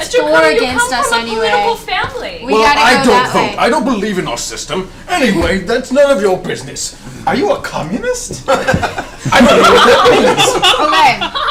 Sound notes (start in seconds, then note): 8.5 all laugh